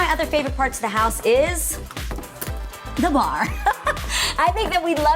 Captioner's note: laughs